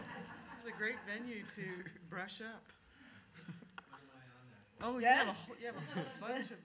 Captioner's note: laughter